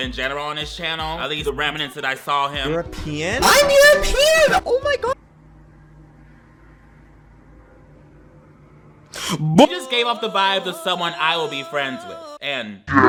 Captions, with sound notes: in general on his channel, at least the remnants that I saw him. - European? I'm European, oh my god. (plane whirs) (man inhales) - He just gave off the vibes of someone I would be friends with, and.